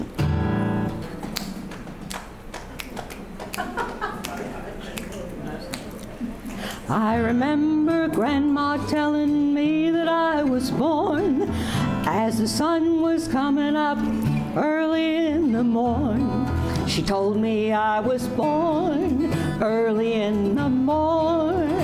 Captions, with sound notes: (guitar strumming) (laughing) I remember Grandma telling me that I was born As the sun was coming up early in the morning She told me I was born early in the morning